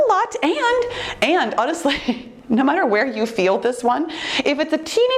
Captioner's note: chuckles